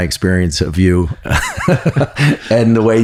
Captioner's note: both laughing